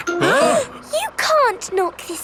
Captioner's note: all gasping